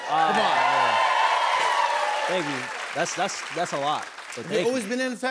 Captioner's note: cheers and applause